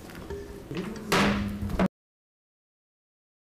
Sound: gavel bangs

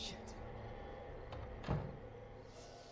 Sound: DOOR CLOSlNG

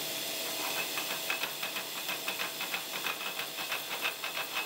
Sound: machine clicking

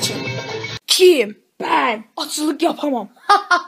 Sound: laughs

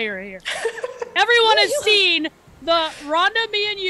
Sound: laugh

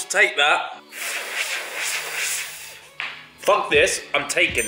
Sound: blows

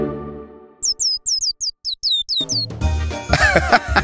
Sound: cheeping; narrator laughs

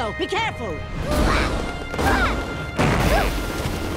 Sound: grunting

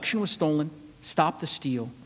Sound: none

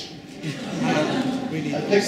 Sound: laughing

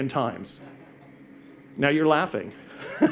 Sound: audience laughs

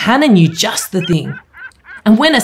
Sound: seagulls squawking

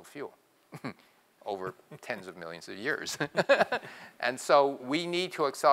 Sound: laugh

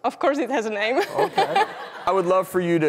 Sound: laughing

